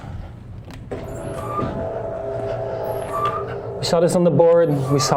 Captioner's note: mechanical whirring